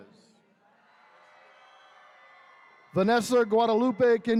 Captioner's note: attendees cheering